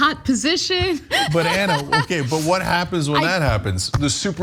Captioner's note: laugh